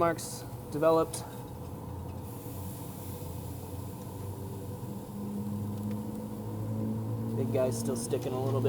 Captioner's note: chicken sizzling